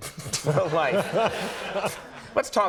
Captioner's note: laughter